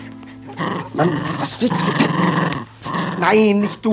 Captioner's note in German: Knurren; zischt